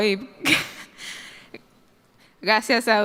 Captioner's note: laughter